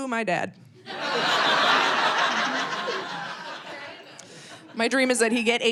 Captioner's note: audience laughing